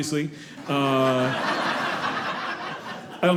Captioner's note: audience laughing